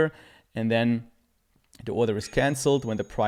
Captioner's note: bell chimes